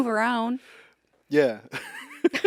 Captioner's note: laughs